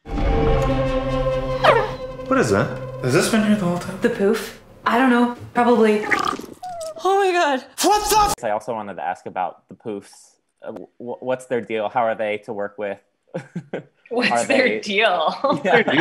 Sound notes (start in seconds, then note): 0.0 dramatic music; 1.6 creature chirping; 6.0 creature chirping; 13.4 laughing